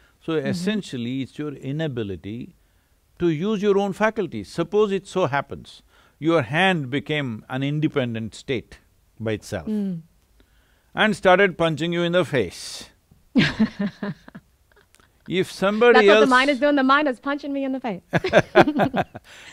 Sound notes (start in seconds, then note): 13.3 laughs; 18.1 both laugh